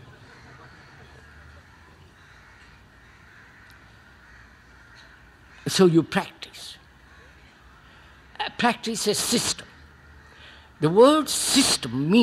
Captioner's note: laughter